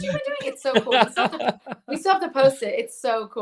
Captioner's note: laughs